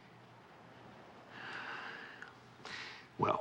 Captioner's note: sighs